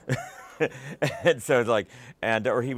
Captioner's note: laughter